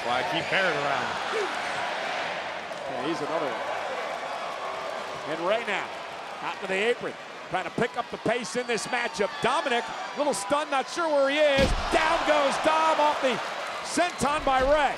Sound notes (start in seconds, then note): 2.0 spectators cheering